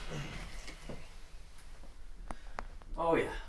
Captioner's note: neck Cracking